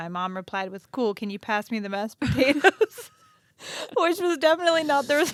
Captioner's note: laughs